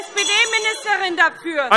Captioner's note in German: Weitere Zurufe - Glockenzeichen